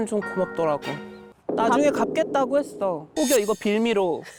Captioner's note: sound effect: escape route blocked; suspicious tone